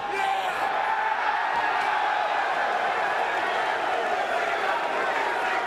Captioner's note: crowd exclaiming